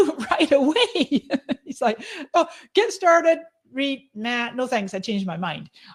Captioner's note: laughing